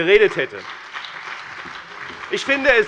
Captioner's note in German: Beifall bei dem BÜNDNIS 90/DIE GRÜNEN und der CDU